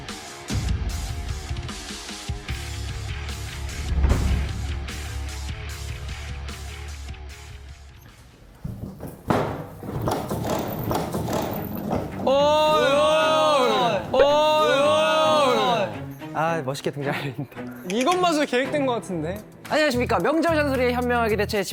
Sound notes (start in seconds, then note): 8.7 bang